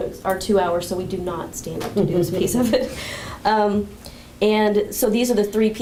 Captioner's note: chuckle